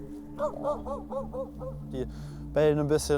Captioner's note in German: Mehrfaches Bellen